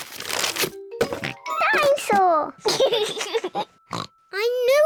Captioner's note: oinks; laughs; oinks